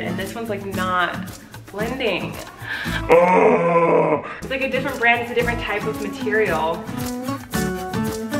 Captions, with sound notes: and these one's like not blending. (growling) It's like a different brand. It's a different type of material.